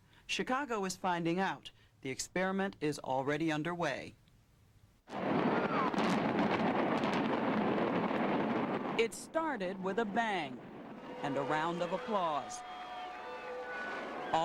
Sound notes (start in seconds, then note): 5.1 boom